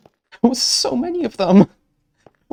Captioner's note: laughing